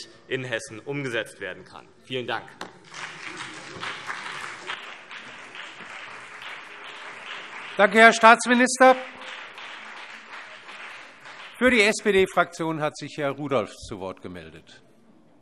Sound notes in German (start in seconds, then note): 2.6 Beifall CDU und BÜNDNIS 90/DIE GRÜNEN